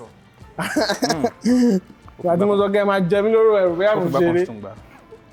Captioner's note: laughs